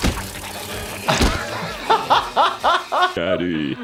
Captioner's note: Toothfairy gnarls; doctor laughs